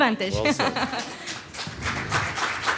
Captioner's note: applause